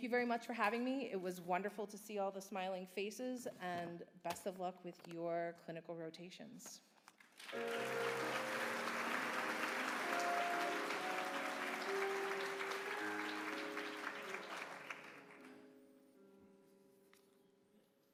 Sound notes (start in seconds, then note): 7.2 applause